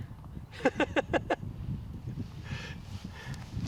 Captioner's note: laughs